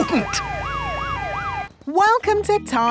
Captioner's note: sirens wailing